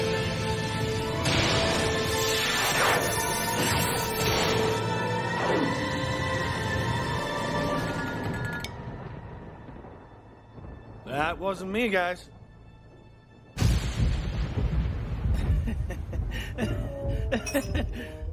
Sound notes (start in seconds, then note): 13.6 distant thunder cracking; 15.3 chuckling